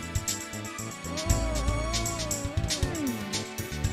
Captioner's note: whimpers